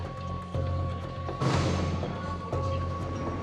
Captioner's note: door clangs